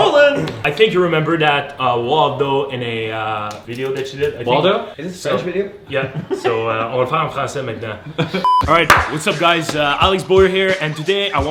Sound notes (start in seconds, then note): 7.6 speaks foreign language